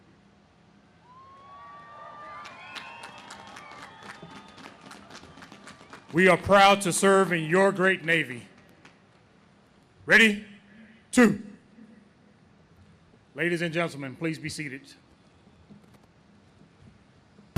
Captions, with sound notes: (audience cheers) We are proud to serve in your great Navy. Ready, two. Ladies and gentlemen, please be seated.